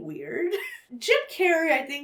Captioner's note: chuckles